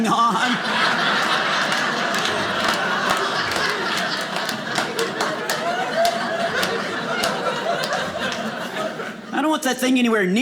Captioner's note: audience laughing